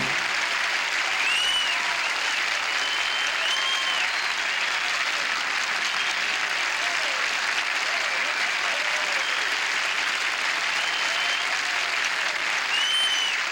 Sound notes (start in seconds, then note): 1.1 cheering